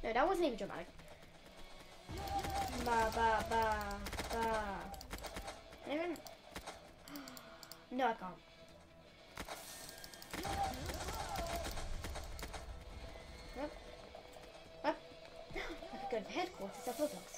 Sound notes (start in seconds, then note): 3.8 representing gun shots; 7.0 gasp; 14.3 gasp